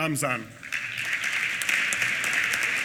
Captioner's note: applause